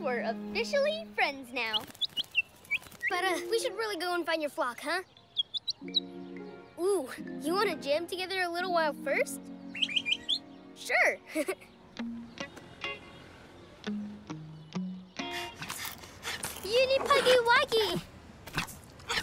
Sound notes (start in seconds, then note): 1.6 chirps; 5.0 chirps; 9.4 chirps; 11.2 chuckles; 15.4 panting